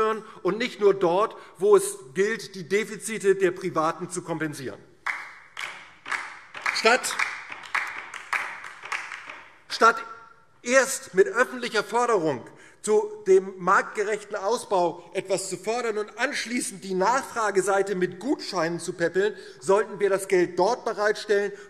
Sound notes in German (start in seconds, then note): 5.0 Beifall DIE LINKE